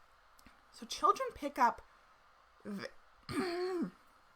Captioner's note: coughs